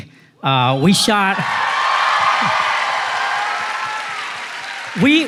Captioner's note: applause